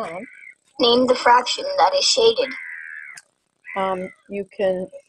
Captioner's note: voiceover